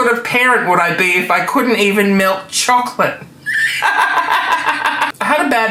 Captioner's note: laughing